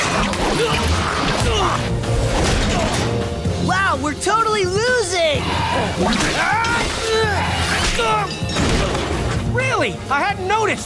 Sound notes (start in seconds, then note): 0.0 grunting; 5.4 grunting